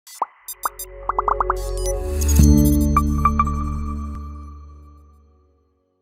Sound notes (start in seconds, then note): 0.5 soft music; 1.0 graphics popping